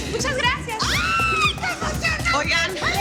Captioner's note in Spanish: Grito